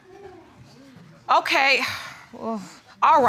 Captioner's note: sighs